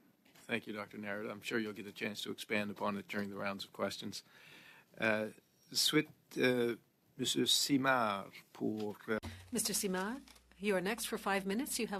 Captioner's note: speaking French